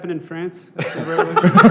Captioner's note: laughter